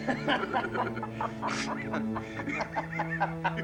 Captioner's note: chuckling